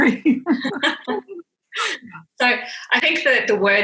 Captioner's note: laughing